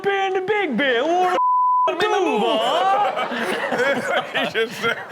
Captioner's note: beep